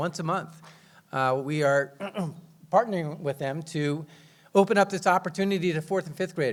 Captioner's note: clears throat